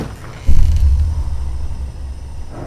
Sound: door creaks

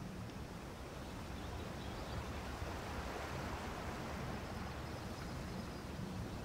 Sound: water sounds

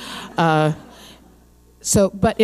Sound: audience laughing

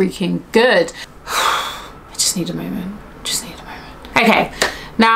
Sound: exhales

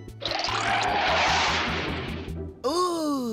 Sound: whooshes

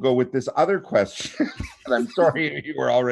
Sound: chuckling

